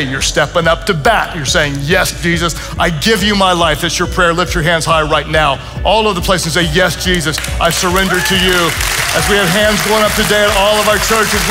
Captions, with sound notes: You're stepping up to bat. You're saying, "Yes, Jesus, I give you my life." That's your prayer. Lift your hands high right now. All of the places say, "Yes, Jesus. I surrender to you." (congregation applauds and cheers) As we have hands going up today at all of our churches,